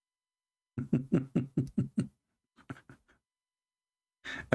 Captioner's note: Ketawa